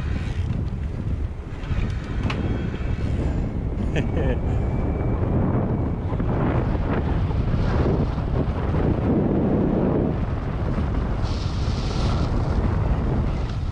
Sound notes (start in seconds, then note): 1.8 wind gushing; 3.8 chuckles; 4.8 wind gushing